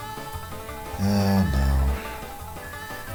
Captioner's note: sighing